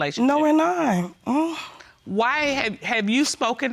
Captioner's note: scoffs